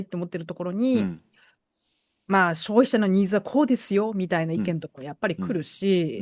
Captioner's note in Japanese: 咳払い